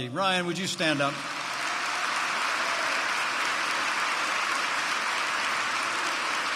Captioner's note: applause